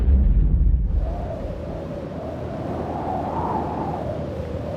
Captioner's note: ground rumbles; wind whooshing